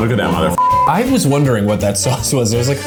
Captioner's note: beep